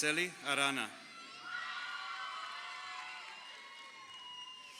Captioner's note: crowd cheering